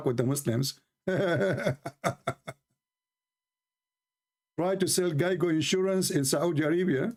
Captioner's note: Ketawa